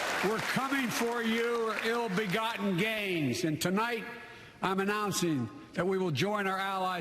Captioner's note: applause